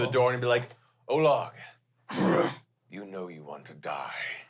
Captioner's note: growls